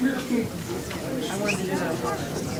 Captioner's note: crowd talking indistinctly